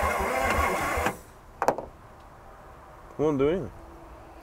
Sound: vehicle engine humming; vehicle engine stops

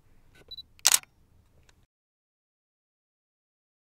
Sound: camera clicks

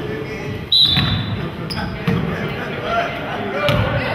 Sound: whistle blows

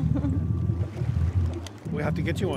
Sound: chuckling

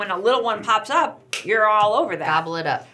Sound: hands clap

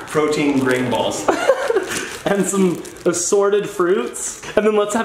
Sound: laughing

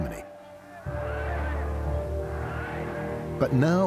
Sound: chanting "Heil"

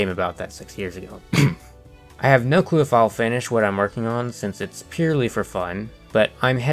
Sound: cough

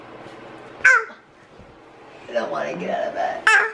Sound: baby babbles; baby babbles

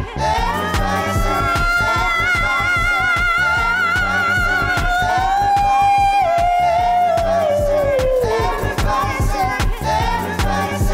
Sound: ehhhh wooo woo woo

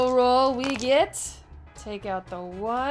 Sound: dice rolling

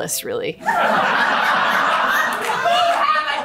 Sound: audience laughing

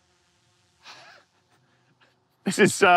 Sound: wheezes

